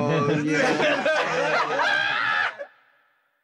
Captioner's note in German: Lauchen